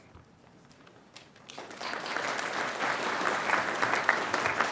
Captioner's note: audience applauding